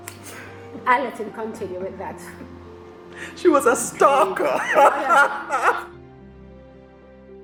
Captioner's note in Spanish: risas